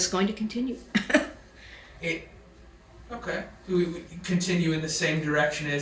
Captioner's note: laughs to self